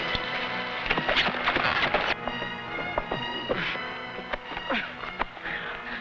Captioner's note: tense music; horse hooves pattering; sentry groaning